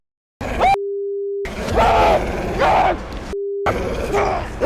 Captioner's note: groans; screams; intense music; wolf growling